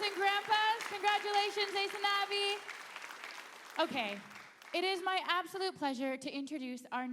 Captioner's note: indigenous speaking